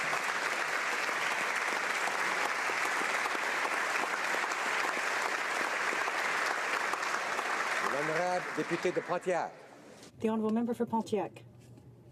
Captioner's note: speaking French